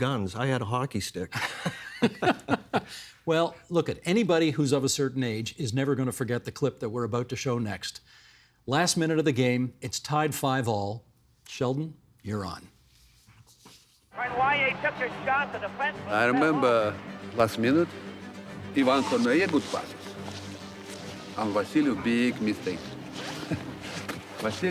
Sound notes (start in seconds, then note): 14.2 cheering